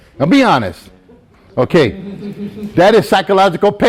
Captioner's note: student chuckles